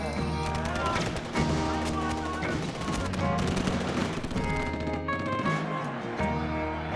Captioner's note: rapid gunshots popping; crowd grumbling